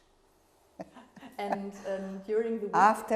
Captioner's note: laughing